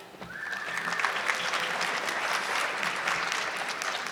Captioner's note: audience clapping